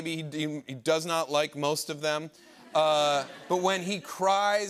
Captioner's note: laughter